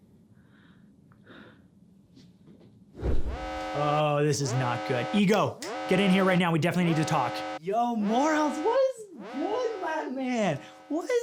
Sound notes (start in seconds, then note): 3.7 alarms blare